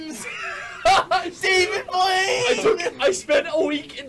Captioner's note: laughs